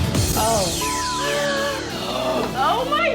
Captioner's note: gasps & surprises